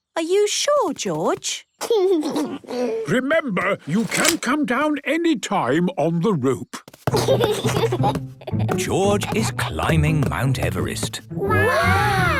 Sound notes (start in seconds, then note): 0.2 George snorts; 1.8 giggles; 7.1 giggles